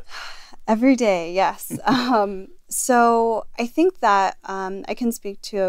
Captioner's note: laugh